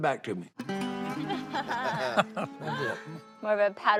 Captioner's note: laughing